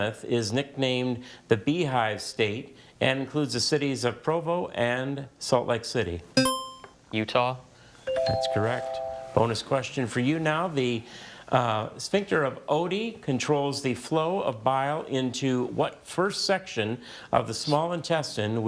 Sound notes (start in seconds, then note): 6.4 buzzer chimes; 8.1 bell chimes